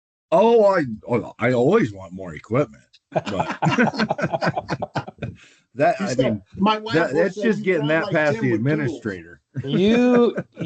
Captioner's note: laughter